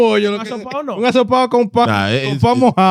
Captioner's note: speaking In Foreign Language